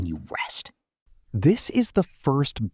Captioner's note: pause